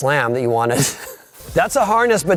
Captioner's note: laughing